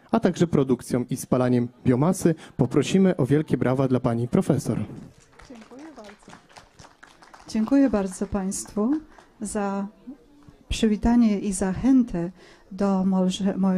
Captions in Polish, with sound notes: a także produkcją i spalaniem biomasy. Poprosimy o wielkie brawa dla pani profesor. -(oklaski) Dziękuję bardzo, dziękuję bardzo Państwu za przywitanie i zachętę do może